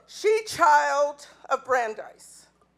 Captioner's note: none